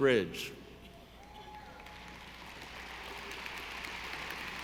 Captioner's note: audience applauding